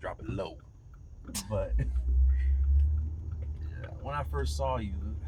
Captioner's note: Opal laughing